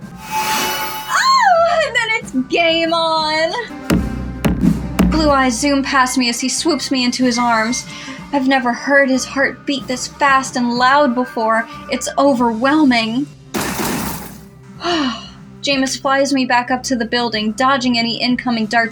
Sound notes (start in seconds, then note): 1.4 squeal; 13.6 gunshots; 14.8 sigh